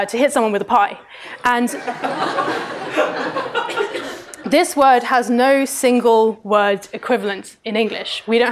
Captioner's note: laughter